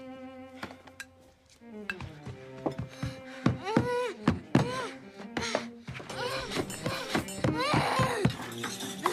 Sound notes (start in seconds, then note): 3.5 moaning